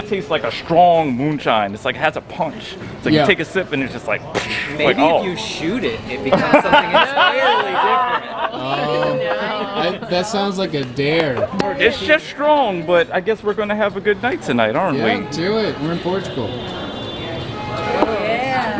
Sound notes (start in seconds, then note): 4.4 mimics explosion; 7.9 all laughing